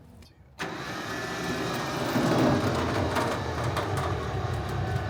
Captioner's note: machine whirring